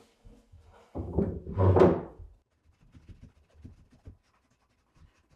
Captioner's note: wood scraping